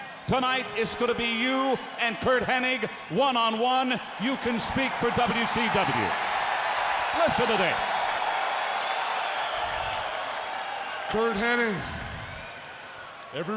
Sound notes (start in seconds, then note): 6.4 applause